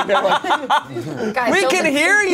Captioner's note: everyone laughs